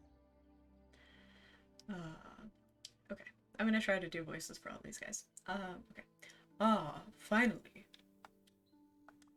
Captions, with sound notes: *deep voice* "Ah..." - Okay, I'm gonna try to do voices for all these guys. Okay. *deep Charon voice* "Ah, finally."